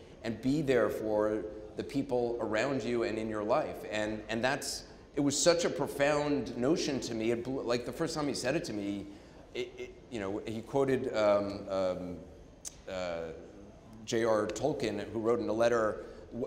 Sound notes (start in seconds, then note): none